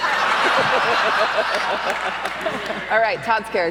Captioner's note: laughter erupts